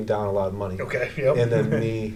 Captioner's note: chuckles